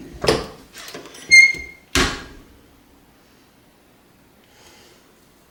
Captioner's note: press hinge squeaking